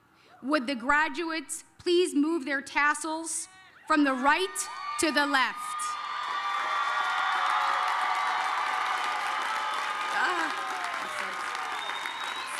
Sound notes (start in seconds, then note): 5.6 applause